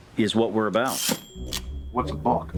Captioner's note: typewriter chimes